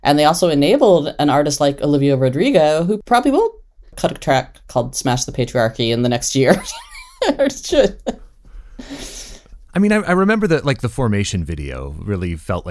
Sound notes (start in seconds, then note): 6.6 laughs